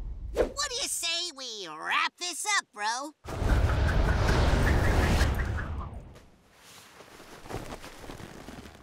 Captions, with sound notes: What do you say we wrap this up, bro? [air whooshing]